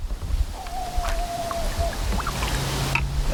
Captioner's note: howling in the distance